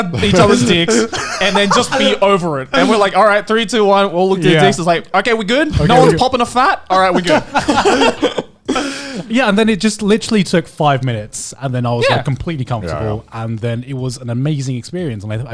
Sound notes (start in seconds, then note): 0.1 laughing; 7.0 laughing